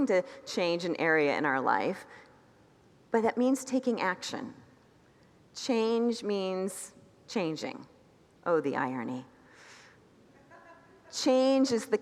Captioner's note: congregants laugh